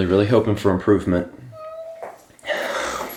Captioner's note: Sagan meowing